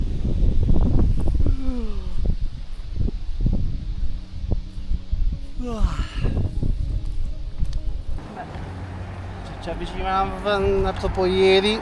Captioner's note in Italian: risate